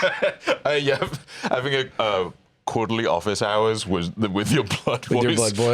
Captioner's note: laughs